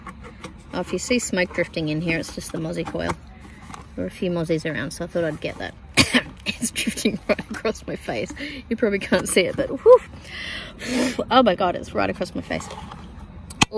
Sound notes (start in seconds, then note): 5.9 coughs; 10.3 sputters